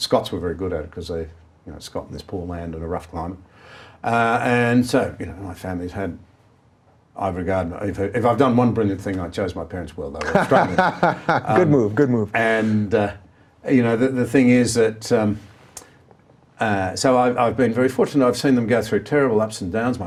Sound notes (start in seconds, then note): 10.2 laughing